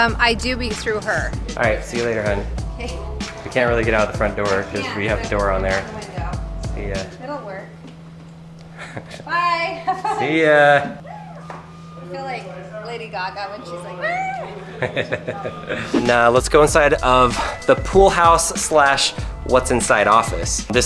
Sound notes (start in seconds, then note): 13.4 shrieks; 14.4 narrator laughs